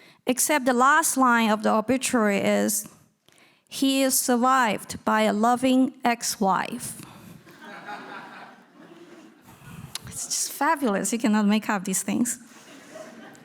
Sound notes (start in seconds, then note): 7.4 audience laughing